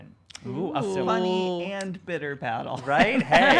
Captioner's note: laughs